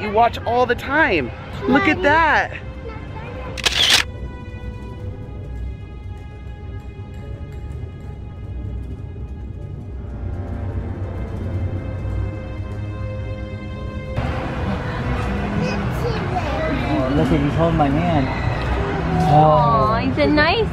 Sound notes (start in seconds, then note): 3.6 photo snap; 7.6 forlorn music